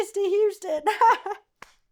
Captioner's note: laughs